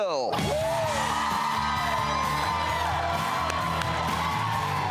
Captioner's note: audience cheers, clapping